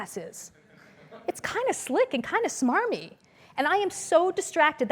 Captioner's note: laugh